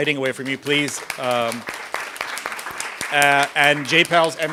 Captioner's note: applause